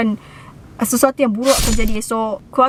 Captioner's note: stabbing sound